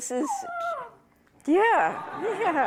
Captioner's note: dog whining